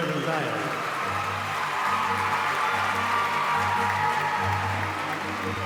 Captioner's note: audience applauding and whooping